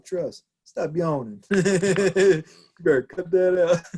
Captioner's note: laughs